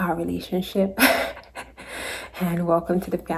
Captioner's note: laughs